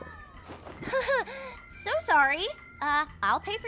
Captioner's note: laughs